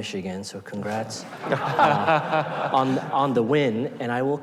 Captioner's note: audience laughing